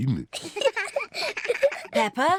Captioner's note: both giggle